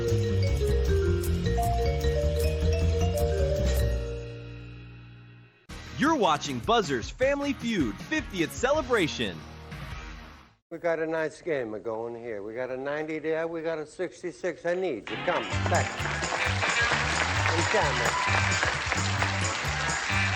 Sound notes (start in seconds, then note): 15.0 applause, theme music